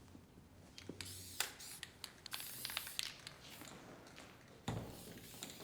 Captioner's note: can whooshing